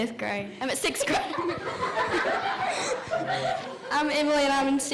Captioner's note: all laughing